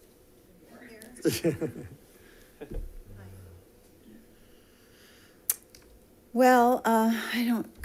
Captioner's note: laughter